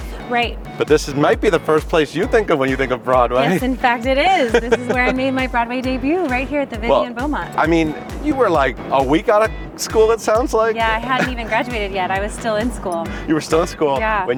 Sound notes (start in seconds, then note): 4.2 laughing; 11.0 chuckles